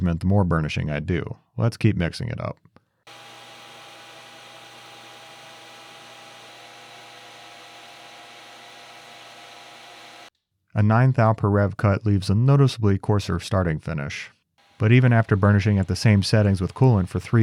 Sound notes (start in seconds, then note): 3.0 machine humming